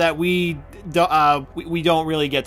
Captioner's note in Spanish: tartamudea